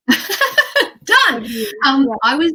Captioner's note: laughs